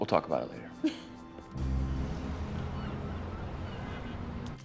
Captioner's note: Candace laughs